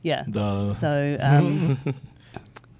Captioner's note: laughs